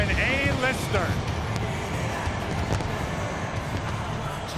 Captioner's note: fireworks rumbling